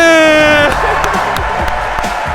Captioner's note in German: lacht; applaus